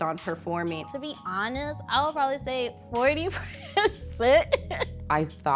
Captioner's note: laughing